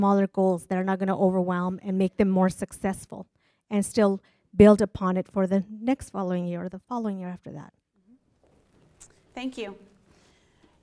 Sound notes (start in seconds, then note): none